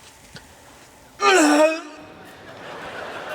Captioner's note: A moan